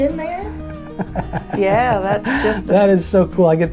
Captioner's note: Cowboy Jack laughing